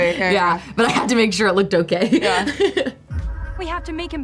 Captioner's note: laughs